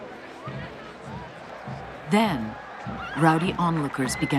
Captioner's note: people murmuring in background